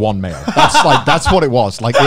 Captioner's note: laughs